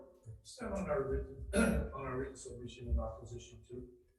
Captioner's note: speaks faintly